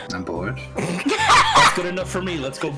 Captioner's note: laughter